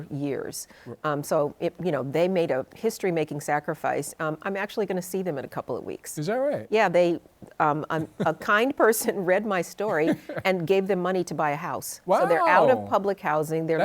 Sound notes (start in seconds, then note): 9.9 chuckles